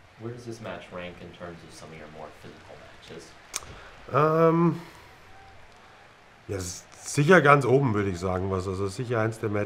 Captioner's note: fremdsprache